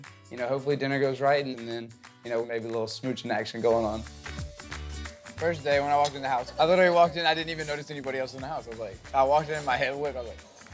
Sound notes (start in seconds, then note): none